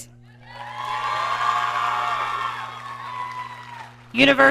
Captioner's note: audience cheering